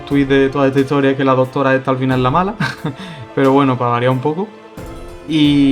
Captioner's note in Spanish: risas